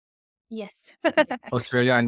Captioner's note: laughs